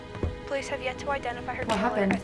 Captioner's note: news broadcast